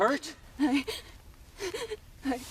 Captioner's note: gasps